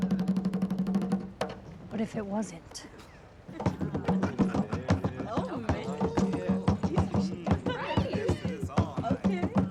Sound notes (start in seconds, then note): 3.5 laughing; 3.5 lively drumbeats